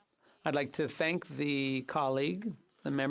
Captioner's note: speaking French